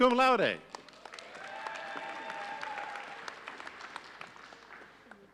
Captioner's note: audience cheering